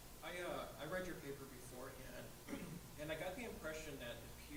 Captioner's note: voiceover